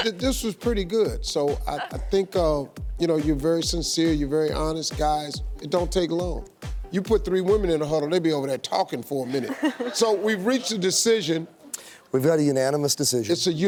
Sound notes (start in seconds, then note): 9.2 audience and bachelorettes laugh